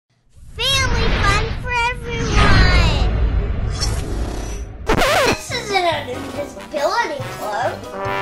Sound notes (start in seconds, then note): 4.8 record scratches